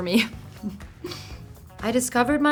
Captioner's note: laughing